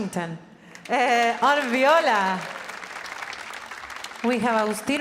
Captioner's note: audience applauding